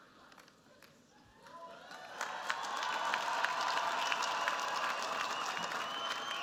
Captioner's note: cheers, applause